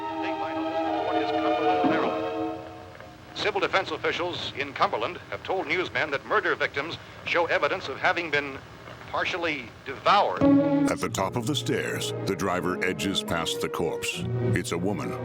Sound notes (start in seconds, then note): 0.0 soft music; 3.2 radio; 10.4 foreboding music